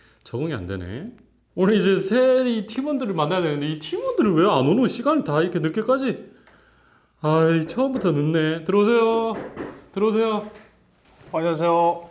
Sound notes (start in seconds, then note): 9.1 knock, knock, knock